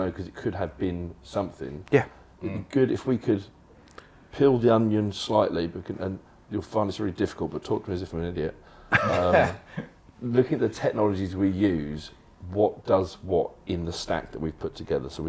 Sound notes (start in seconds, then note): 8.9 laughter